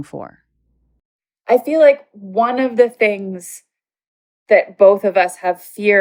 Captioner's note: on Zoom call